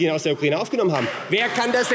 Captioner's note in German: Beifall AfD